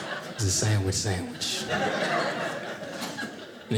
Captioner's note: audience laughing